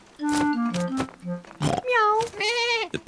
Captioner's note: all makes animal sounds